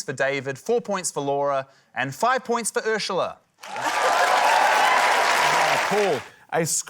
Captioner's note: cheering, applause